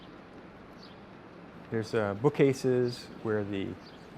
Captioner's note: birds chirp